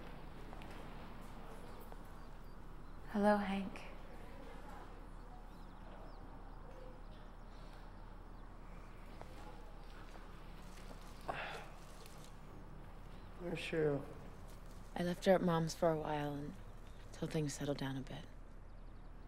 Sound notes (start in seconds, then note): 11.2 sighs